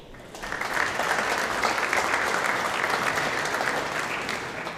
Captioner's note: audience applauding